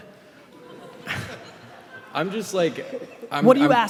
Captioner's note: laughing